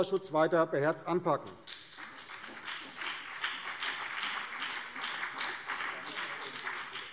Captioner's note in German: Beifall BÜNDNIS 90/DIE GRÜNEN und vereinzelt CDU